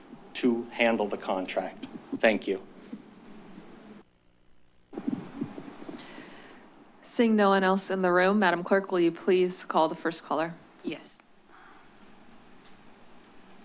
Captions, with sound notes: to handle the contract. Thank you. [rustles] - Seeing no one else in the room, Madam Clerk, will you please call the first caller? - Yes.